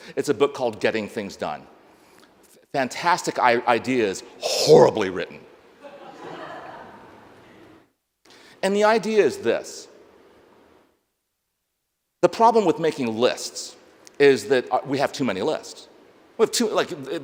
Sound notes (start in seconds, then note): 5.8 audience laughs